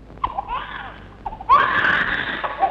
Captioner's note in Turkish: Bebek ağlaması